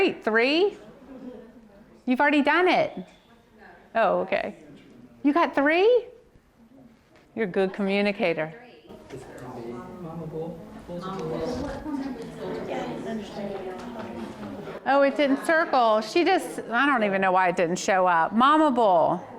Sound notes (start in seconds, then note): 8.9 audience murmurs